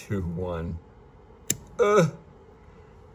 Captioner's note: grunts